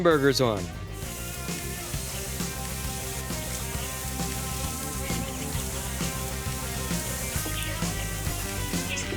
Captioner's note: sizzling